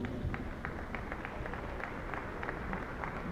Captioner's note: applause